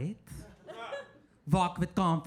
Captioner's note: audience laughing